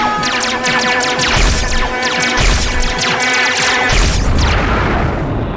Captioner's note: laser guns blasting